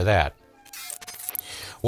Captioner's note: crunching